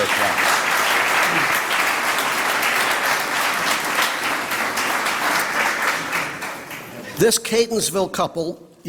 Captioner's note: applause